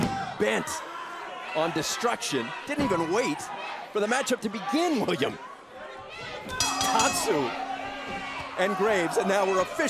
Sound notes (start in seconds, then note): 4.9 crowd chatter